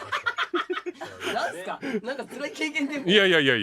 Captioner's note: laughs